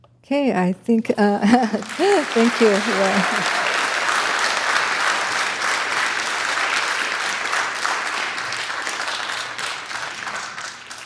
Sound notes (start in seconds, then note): 1.4 chuckles; 1.5 audience applauds